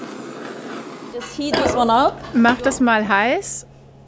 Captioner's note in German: englisch